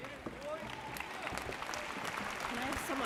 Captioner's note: audience cheers